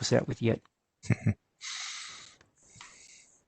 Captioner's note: chuckles